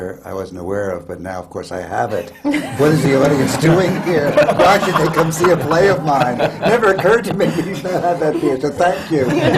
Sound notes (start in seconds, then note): 2.1 laughter